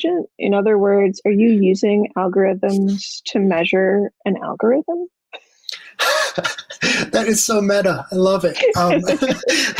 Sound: laughter

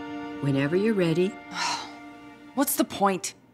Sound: sighing

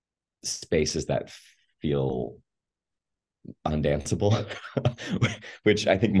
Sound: laughs

